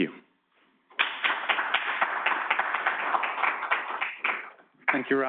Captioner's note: audience applauding